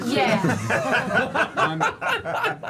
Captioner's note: laughter